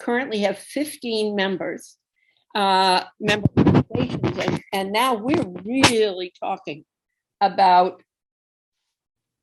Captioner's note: away from microphone